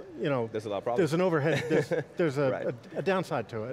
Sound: laughs

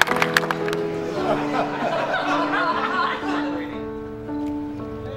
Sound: clapping; laughter

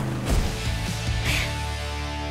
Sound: sighs

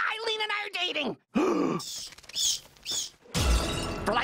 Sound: Mordecai gasps while bat squeaking

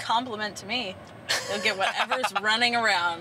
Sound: laughs

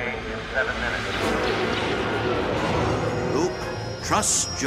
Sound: lasers firing

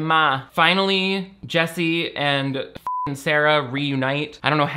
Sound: beep

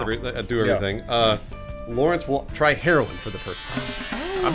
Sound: ambigously eastern Asian sound effect

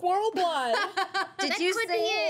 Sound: girls laughing

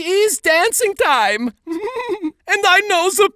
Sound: laughs

